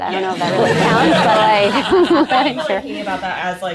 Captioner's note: group laughing